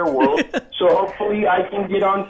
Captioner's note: laughs